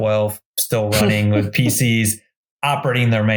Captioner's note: giggles